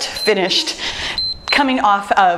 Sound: timer beeps

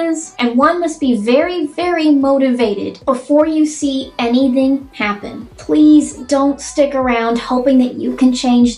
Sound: none

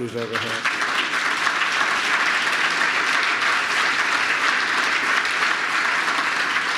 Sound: applause

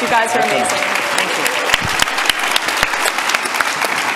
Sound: everyone applauds

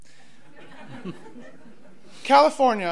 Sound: audience laughs

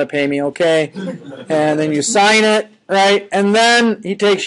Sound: students laughing

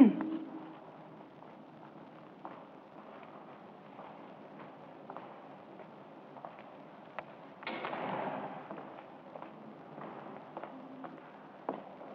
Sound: love clears throat

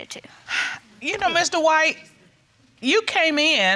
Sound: sighs

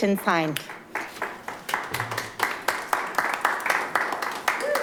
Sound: light applause

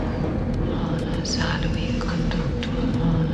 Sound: chanting

